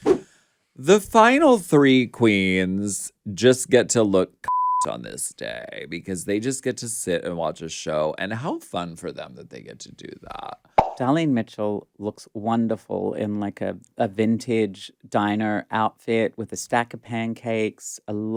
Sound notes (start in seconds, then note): 4.4 beep